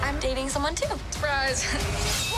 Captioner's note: laugh